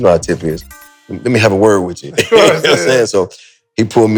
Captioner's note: both laugh